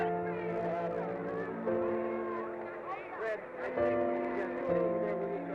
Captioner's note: crowd chattering